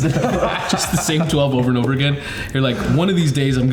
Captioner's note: all laughing